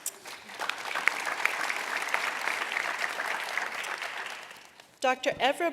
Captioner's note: applause